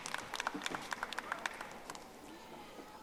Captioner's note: audience applauding